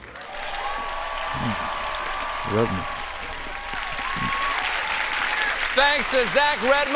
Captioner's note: cheers and applause